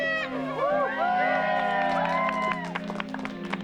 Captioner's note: cheering and applause